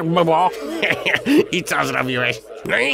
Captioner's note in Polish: śmiech Wala